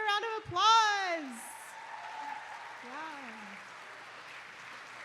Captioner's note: applause